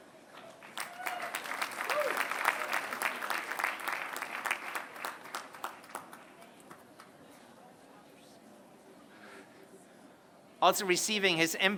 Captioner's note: applause